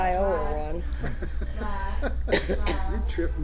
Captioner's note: laughs